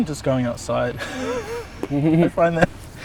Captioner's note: laughs